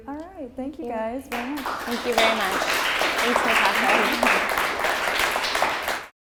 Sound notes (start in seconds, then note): 4.3 applause